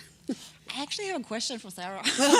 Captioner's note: chuckle